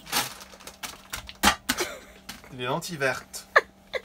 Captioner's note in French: rires